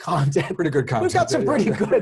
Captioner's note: laugh